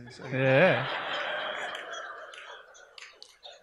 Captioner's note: audience laughs